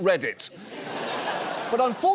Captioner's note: audience laughs